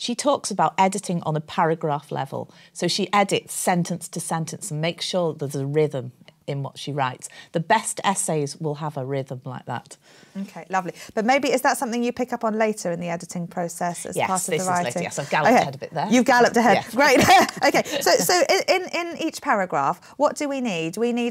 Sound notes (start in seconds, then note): 16.9 laughs